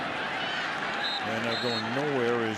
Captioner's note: whistle